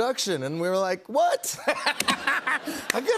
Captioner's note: laughter